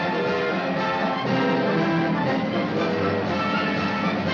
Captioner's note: horn blowing